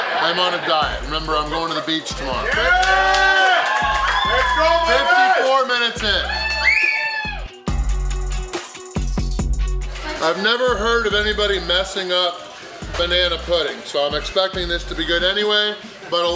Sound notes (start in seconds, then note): 2.9 crowd cheering; 6.8 crowd cheering; 8.8 upbeat music